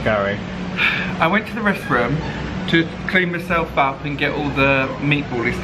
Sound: sighs

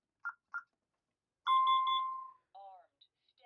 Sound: confirmation beeps

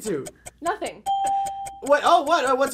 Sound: ding

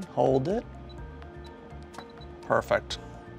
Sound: machine beeping

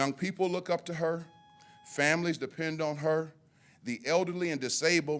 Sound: timer buzzes

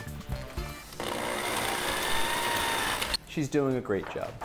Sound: drill buzzes

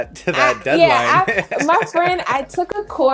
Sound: laughing

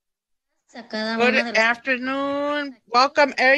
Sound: speaks Spanish

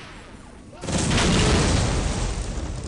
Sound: boomboomboomboomboom!

